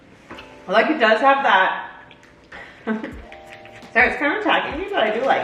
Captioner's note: mom chuckles